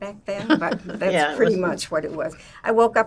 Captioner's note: laughing